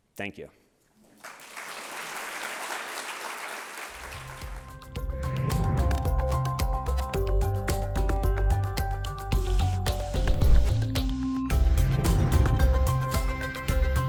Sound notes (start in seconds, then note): 1.0 applause; 5.0 relaxing music